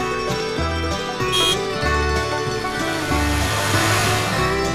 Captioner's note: sound car engine and horn